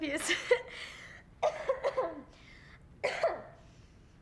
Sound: loud coughing

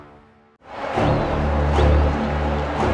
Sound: chants; thriller music

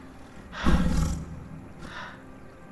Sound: snarl of the leopard

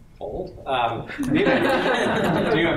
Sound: laughter

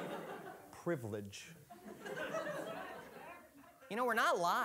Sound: audience laughing

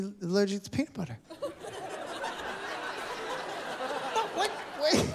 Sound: laughter

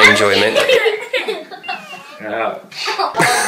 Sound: laughing

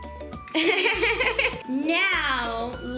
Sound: laughing

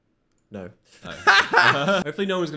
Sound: both laugh

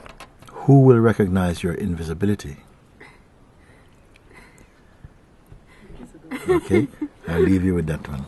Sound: laughter

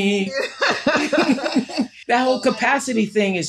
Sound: laughter

